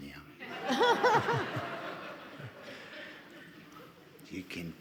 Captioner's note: all laughing